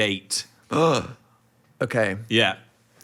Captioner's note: gasps